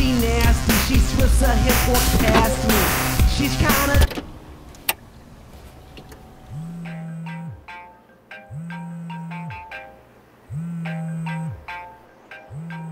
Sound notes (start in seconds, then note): 4.3 music stops; 5.9 phone chiming and vibrating